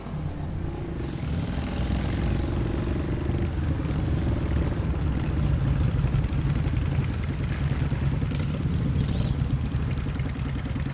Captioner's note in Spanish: Ruido de las motocicletas